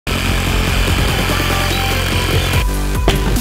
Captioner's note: sawing sounds